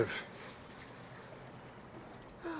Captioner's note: sighs